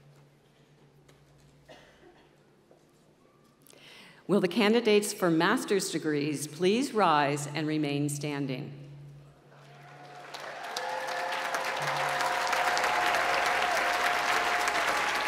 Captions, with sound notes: Will the candidates for master's degrees please rise and remain standing. (applause)